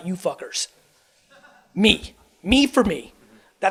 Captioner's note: man laughs